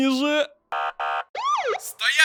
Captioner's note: siren